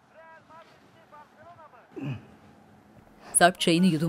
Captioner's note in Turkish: Televizyon ses